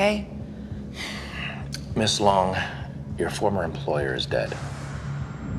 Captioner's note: sighs